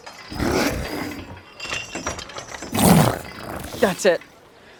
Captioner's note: Slurp groaning